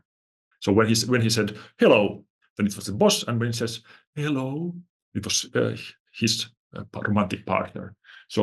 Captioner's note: firm voice; gentle voice